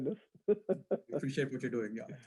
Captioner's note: laughs